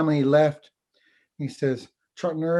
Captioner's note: foreign language